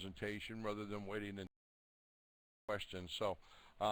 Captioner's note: audio drops